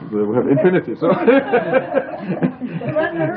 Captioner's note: laughter